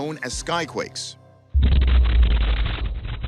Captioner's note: loud explosion